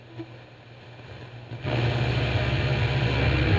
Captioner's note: radio tuning in